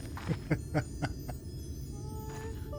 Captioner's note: laugh